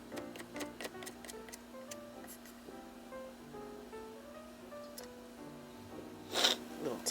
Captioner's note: sips tea